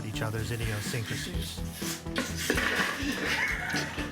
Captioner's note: puffing; giggling